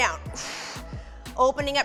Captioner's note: exhales harshly